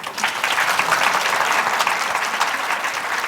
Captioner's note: applause